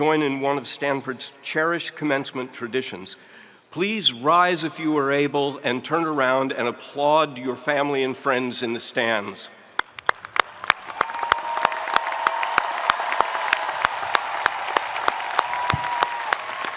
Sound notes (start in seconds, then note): 9.8 spectators applauding; 12.0 spectators cheering